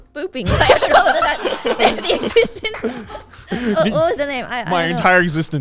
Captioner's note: everyone laughing